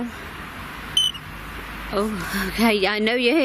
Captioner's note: device chirps